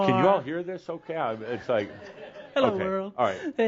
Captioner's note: some laughter